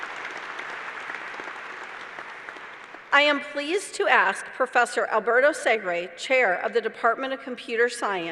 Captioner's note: applause